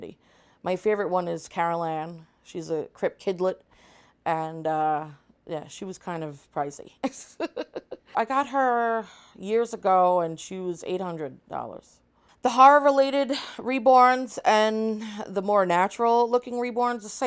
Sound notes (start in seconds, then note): 7.1 laughs